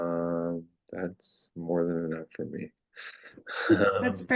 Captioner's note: laughs